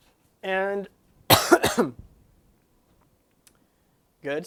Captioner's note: coughs